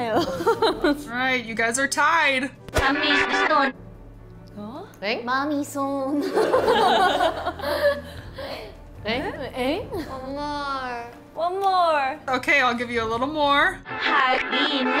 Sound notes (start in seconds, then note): 6.3 members laugh